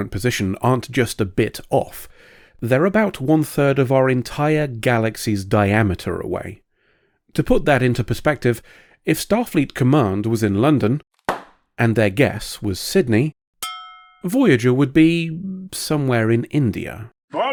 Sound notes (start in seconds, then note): 11.2 pop; 13.6 ding